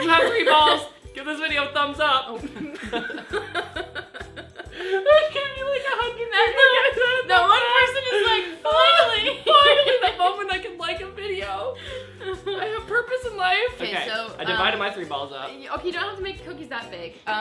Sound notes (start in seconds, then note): 2.5 laughs